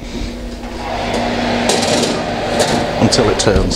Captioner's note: oven roar